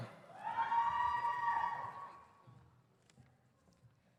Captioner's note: audience cheers